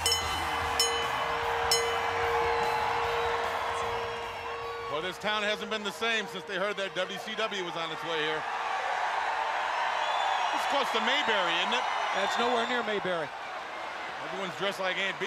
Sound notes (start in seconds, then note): 0.0 bell ringing; 8.4 crowd cheering